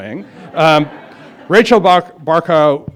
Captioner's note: laughter